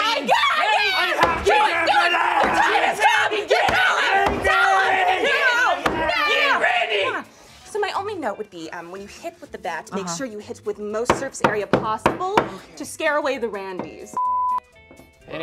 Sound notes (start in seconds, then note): 3.0 all screaming